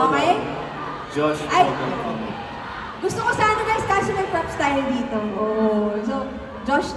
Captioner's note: A'TIN cheering for Josh to come closer